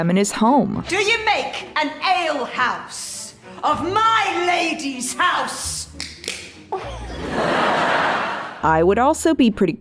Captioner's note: loud can opening sound then audience laughter